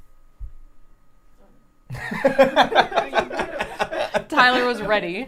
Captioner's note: laughter